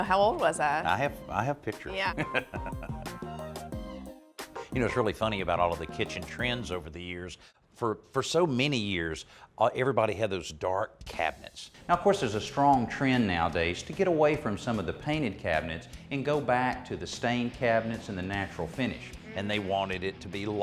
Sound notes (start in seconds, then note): 2.1 laughs